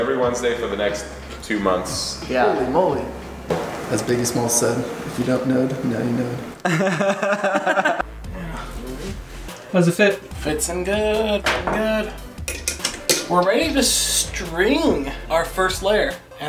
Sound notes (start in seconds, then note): 6.6 laughter